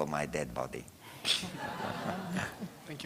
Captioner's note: laughter